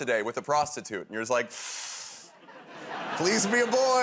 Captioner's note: inhales sharply